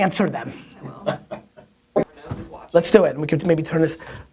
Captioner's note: laughing offscreen